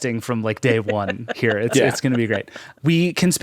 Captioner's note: laughing